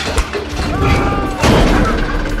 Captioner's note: screams, grunts